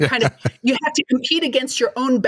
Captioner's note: laughter